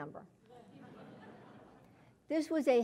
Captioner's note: laugh